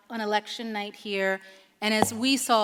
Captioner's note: none